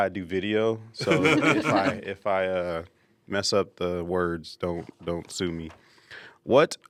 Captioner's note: laugh